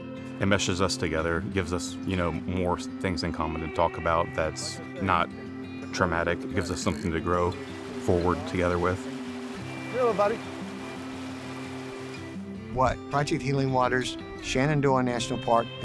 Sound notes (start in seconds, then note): 9.5 fishermen talking; 11.2 stream flowing, music continues